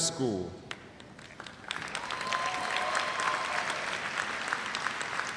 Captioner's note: cheers and applause